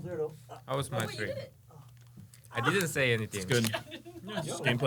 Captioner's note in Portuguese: risos